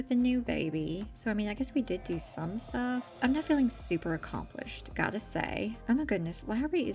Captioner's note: magicy chime